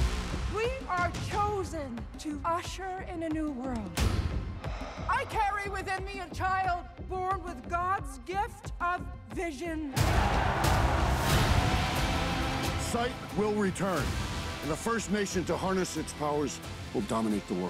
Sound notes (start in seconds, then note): 9.9 cheering